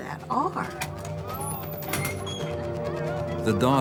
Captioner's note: students chattering